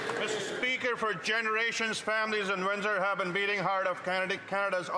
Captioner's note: some Applause